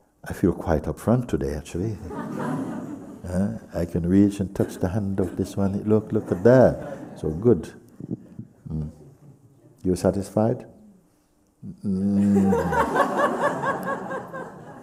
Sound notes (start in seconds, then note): 2.0 laughter; 12.0 sounds doubtful; 12.1 laughter